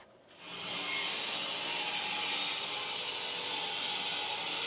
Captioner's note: saw whirring